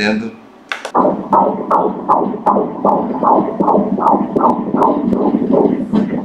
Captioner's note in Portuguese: batimentos cardíacos